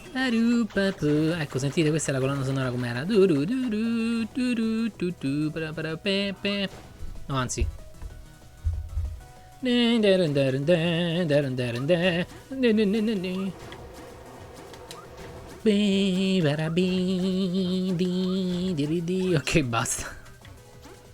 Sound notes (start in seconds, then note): 0.0 humming song; 3.0 humming song; 9.4 humming different song